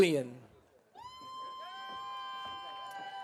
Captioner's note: audience cheering